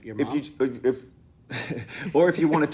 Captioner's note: both laugh